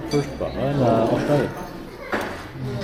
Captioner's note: speaking Vietnamese